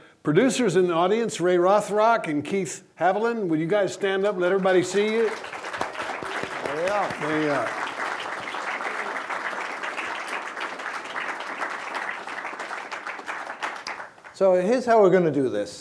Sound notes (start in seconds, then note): 5.5 applause; 9.5 applause